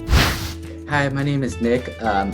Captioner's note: wind whooshes